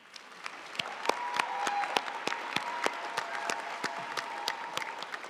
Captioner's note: audience cheering and applauding